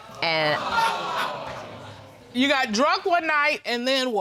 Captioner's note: audience groans